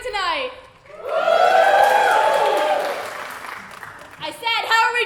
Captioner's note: applause